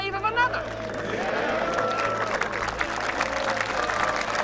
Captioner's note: applause